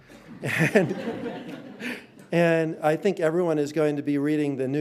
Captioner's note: audience laughing